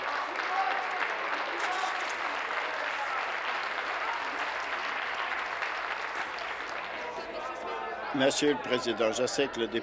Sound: applause

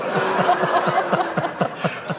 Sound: laughter

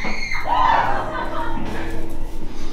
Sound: screams

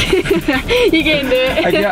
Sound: laughing

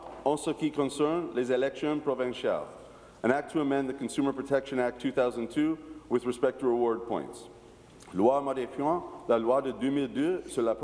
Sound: speaking in french

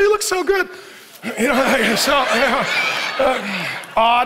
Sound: congregation laughing

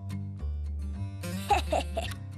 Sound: laughing

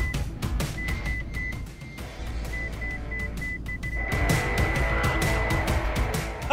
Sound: beeps

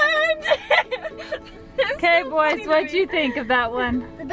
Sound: laughing

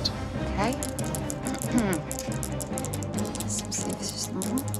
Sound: dice rattling

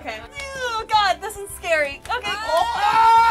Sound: groaning

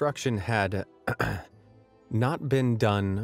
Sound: clears throat

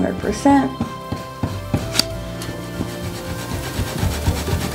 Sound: eraser rubbing

